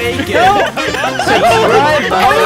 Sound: all laughing

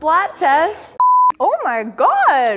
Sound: beep

